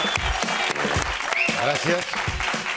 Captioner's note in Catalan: aplaudiments